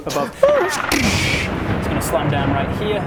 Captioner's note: tzzzzzrxssch